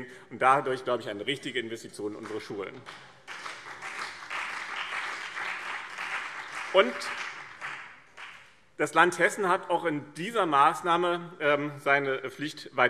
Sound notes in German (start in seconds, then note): 2.1 Beifall BÜNDNIS 90/DIE GRÜNEN und CDU